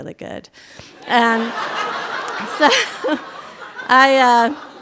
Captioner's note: audience laughter